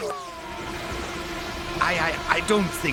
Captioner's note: water rushing